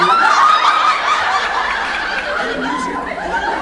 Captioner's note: laughs